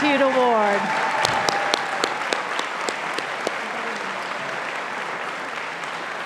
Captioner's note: audience applauding and cheering